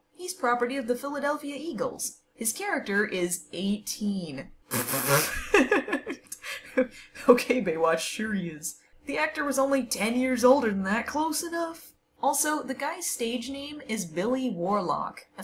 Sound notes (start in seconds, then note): 5.1 laughs incredulously